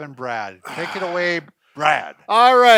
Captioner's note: sighs